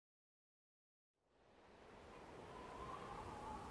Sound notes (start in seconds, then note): 1.3 wind blowing